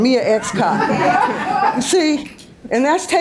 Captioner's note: audience laughs